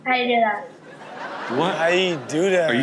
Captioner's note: audience laughing